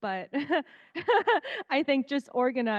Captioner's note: laughing